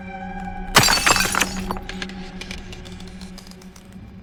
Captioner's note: glass shattering